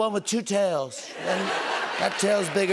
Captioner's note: laughter